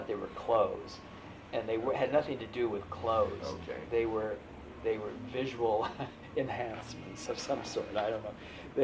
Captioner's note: laughs